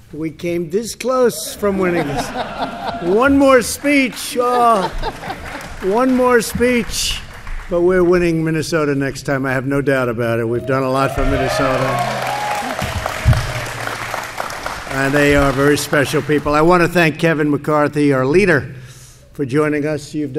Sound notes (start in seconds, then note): 1.3 laughter; 7.2 applause; 10.9 applause